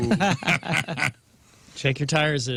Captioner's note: laughing